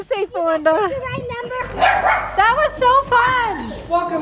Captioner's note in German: Hundegebell